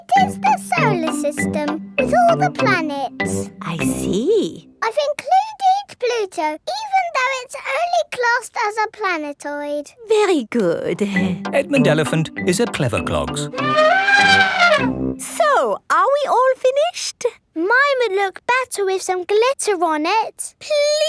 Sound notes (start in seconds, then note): 13.5 trumpeting